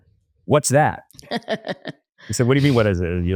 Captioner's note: laughs